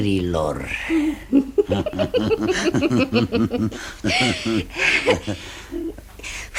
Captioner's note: both laugh